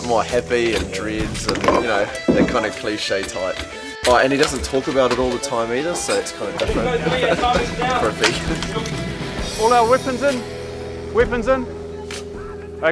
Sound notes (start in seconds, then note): 6.8 laughs